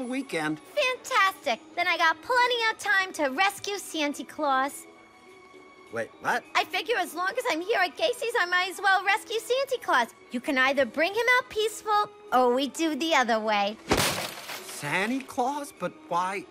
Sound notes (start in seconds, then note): 13.9 bat swings, glass shatters